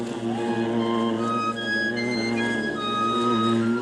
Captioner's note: bees buzzing